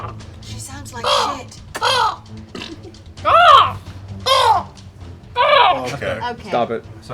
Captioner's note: a panoply of crow noises